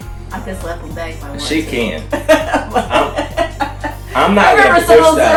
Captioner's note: laughs